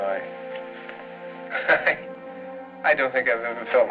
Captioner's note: chuckles